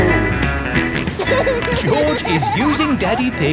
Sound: snorts and laughs

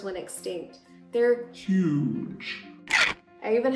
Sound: shark teeth click

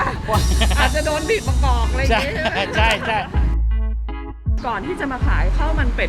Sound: laughter

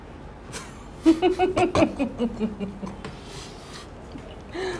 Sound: laughter noise

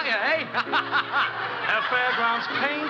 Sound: laughing

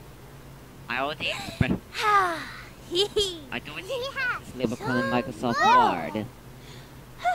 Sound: powerful lumicon cheer

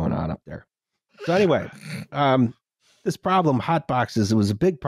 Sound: laughter

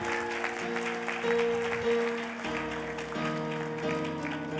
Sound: cheers and applause

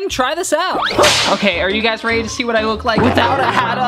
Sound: crashing

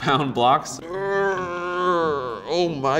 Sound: straining grunts

